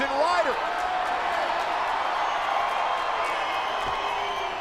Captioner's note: audience cheering